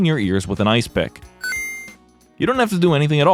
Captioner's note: 39khz ding sound